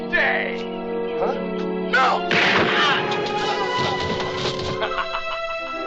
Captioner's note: gunshot; evil laughter